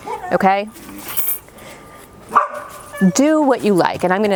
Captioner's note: dog barking